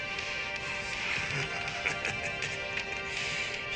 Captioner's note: laughing